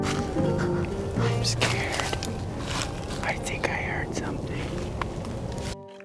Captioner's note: whispering